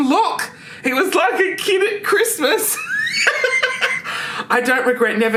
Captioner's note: laughs